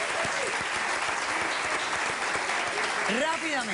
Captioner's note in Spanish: Aplausos